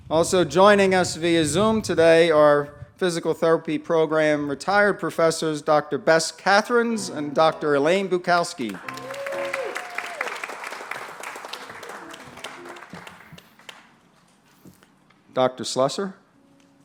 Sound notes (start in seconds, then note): 8.6 applause; 16.3 light music